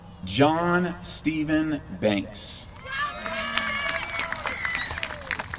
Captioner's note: applause